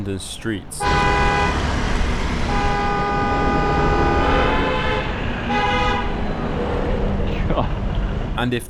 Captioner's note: cars honking